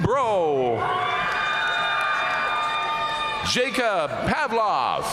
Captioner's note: audience cheering and applauding